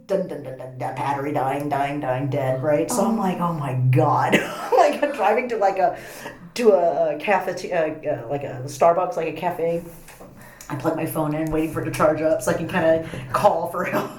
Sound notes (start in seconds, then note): 4.2 laughs